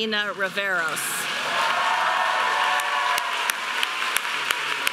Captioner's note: audience applauding